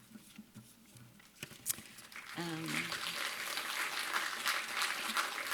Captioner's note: applause